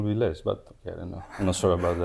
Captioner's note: laughs